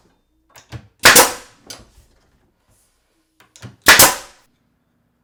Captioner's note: nail gun clicking